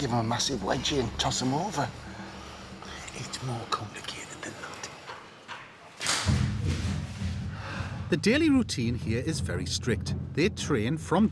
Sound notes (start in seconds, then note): 6.1 thumps